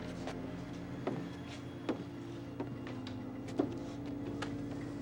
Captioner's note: suspenseful music; footsteps thudding